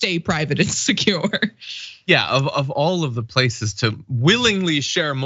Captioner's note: laugh